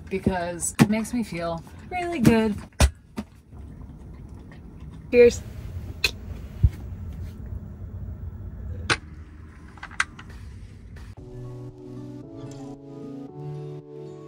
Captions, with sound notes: because it makes me feel really good. (hands banging) Cheers. (gentle music)